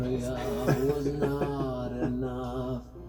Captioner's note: laughs